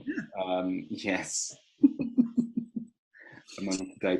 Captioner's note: laughing